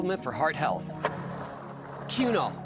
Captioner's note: skateboard wheels roaring